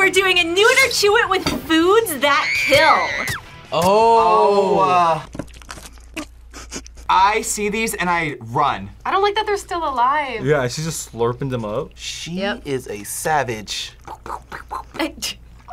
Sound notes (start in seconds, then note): 2.1 woman screams